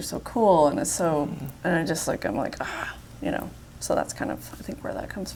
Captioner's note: growls